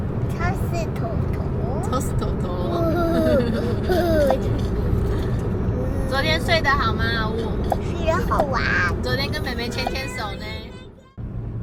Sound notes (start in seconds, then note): 2.6 laughs